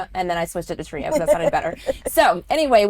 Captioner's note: laughs